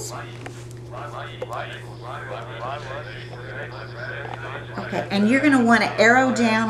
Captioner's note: calculator voices